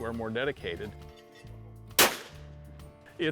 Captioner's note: gun shot